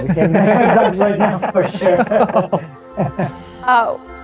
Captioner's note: laughter